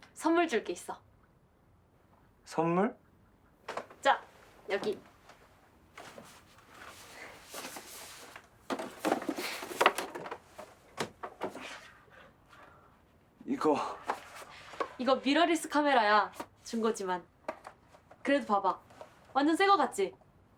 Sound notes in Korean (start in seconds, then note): 6.5 쇼핑백 뜯어 확인하는 소리